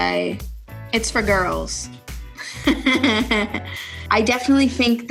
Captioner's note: laughs